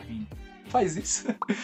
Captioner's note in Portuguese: Risos